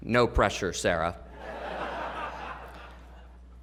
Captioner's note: laughter